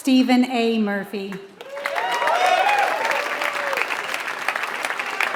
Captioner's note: applause